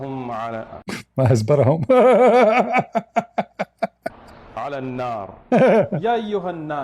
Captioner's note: Ketawa